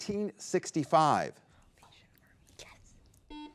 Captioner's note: contestants whispering